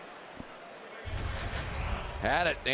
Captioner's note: pa announcement